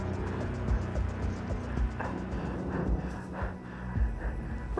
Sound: fast breathing

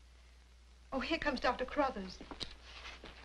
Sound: none

